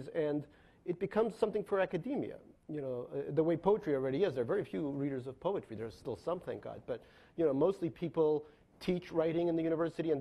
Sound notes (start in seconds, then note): none